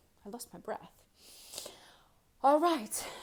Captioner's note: inhales deeply